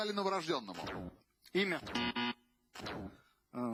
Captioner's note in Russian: пи-пи